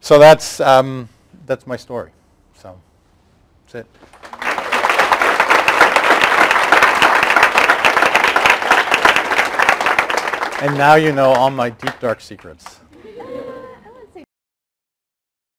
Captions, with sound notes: So that's my story. So that's it. (applause) And now you know all my deep dark secrets. (laughter)